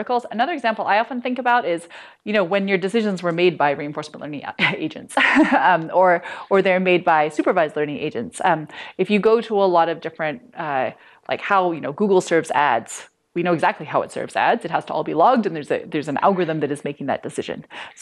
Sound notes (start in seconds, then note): 5.1 laughter